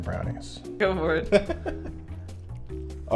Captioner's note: laughs